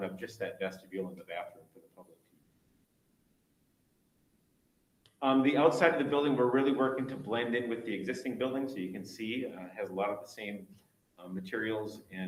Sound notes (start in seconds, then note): none